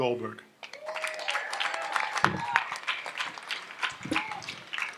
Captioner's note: audience applauds